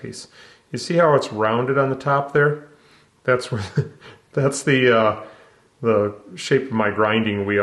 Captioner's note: laughs